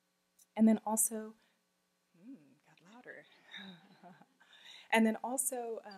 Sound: laughing

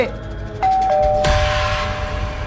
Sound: doorbell rings

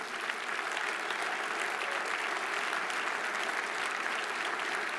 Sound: audience applauding

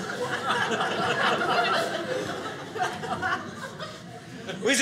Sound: audience laughing

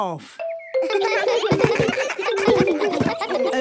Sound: giggles

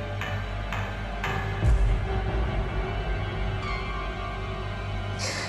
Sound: Karen breathing heavily

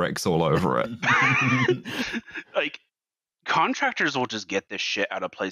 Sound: laughter

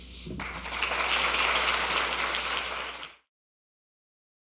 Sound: audience clapping

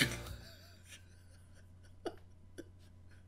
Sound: laughs

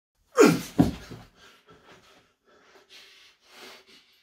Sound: groans

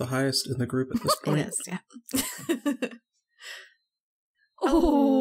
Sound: laughs

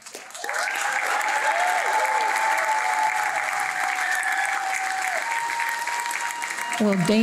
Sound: applause

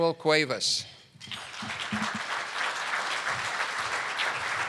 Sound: audience clapping

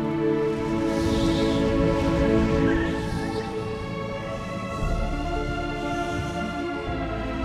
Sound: wind whooshes; soft dramatic music

